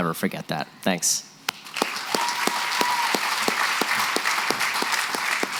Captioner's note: applause